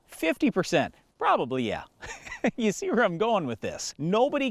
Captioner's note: laughs